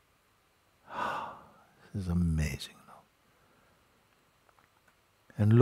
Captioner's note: expirație lungă